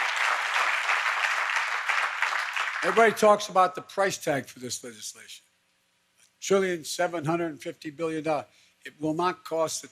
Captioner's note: applause